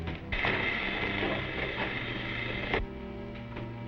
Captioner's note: electricity buzzing